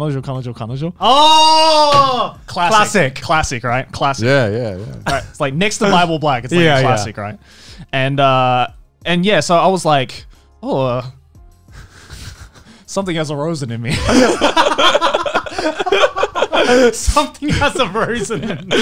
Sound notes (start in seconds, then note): 10.9 laughing